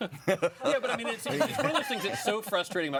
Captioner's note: all laughing